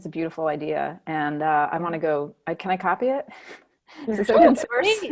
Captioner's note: laughing